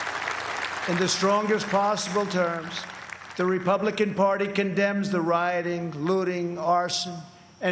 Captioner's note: applause